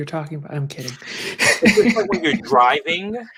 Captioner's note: laughs